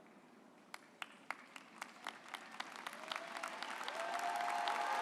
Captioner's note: audience applauds